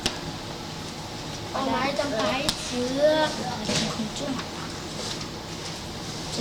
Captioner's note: speaking in Mandarin; speaking in Mandarin